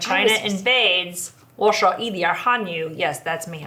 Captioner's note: speaking Mandarin